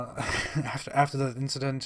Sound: laughs like a sociopath

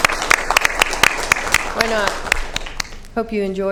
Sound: applause

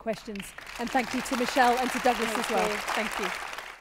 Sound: applause

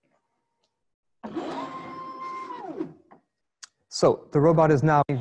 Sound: machine whirring

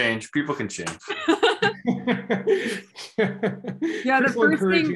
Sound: laughter

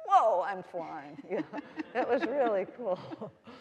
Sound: all laughing

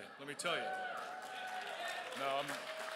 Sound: crowd cheers

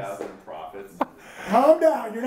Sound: chuckles

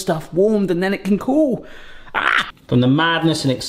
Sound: yelps

